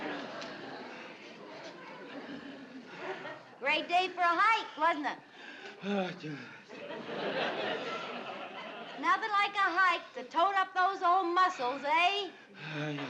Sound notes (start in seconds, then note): 5.6 moaning; 6.7 audience laughing; 12.6 moaning